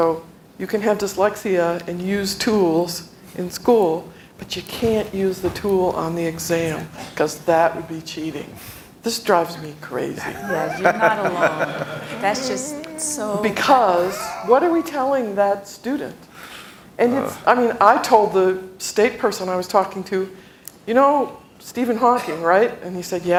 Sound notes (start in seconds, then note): 13.5 laughter